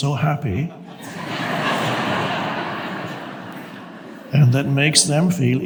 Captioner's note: audience laughs